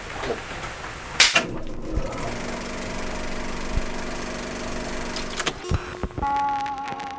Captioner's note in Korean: 영사기 필름 감기는 소리